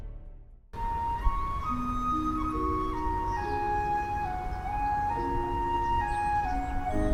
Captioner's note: gentle orchestral music; birds chirping